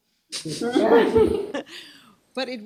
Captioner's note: laughter